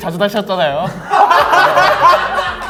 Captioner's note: laughing